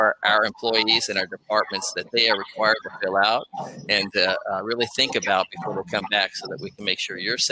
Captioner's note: technical glitch